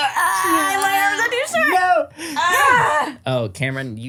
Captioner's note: everyone loudly stretching